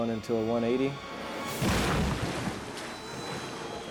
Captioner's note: jet ski thuds